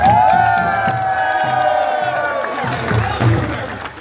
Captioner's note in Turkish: coşkulu tezahürat